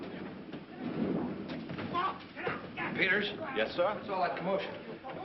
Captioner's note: shouting